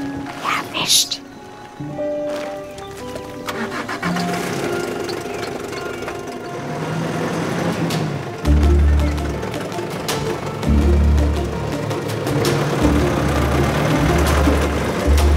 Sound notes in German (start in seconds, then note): 0.3 flüstert; 3.4 Motorstarten; 8.4 Bedrohliche Musik